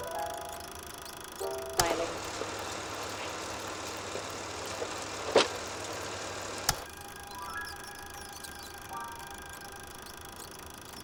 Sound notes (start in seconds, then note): 0.0 light dramatic music; 3.1 film reel whirring